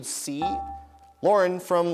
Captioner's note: dinging